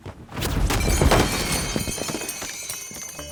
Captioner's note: objects clattering; zapping; whimsical music